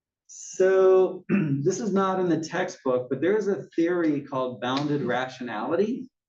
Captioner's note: cough